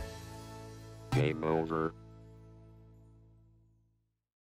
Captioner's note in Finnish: iloista musiikkia; Robottiääni